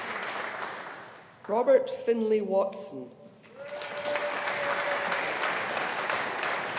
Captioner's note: audience applauding